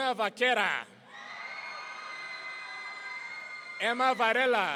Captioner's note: audience cheering